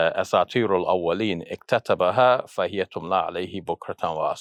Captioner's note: speaks in Arabic